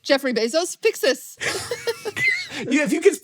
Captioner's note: laughs